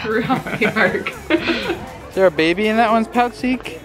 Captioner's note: laughing